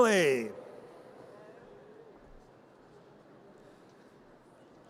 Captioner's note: audience cheers